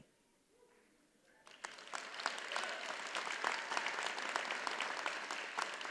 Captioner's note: audience applauds